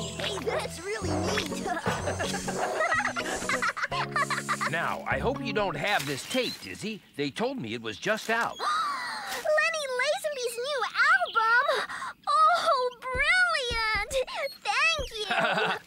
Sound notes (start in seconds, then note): 3.1 dizzy Laughing; 8.6 gasps